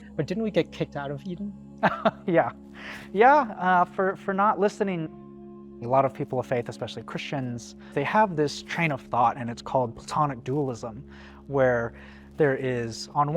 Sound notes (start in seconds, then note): 1.8 laughing